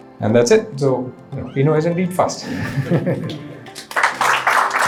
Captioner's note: laughs; audience applauding